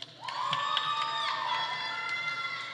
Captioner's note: audience applauding; audience cheering